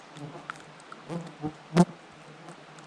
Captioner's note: buzzing